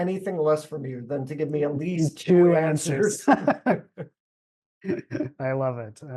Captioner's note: laughter